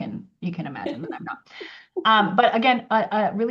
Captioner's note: laughs